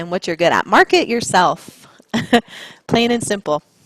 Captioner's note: chuckles